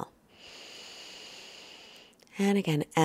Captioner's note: breathing slowly